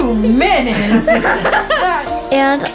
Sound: laughing

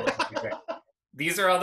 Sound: laughs

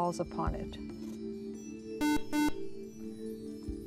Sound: buzzer

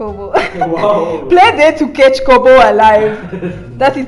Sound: chuckles in ineptitude; nigerian sounding

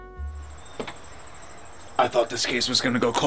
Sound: insects chirping

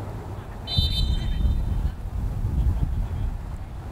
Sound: whistle blows

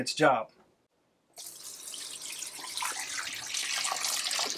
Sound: water flowing

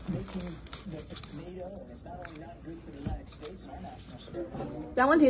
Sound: nommmmm

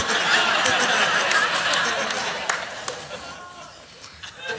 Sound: congregation laughs

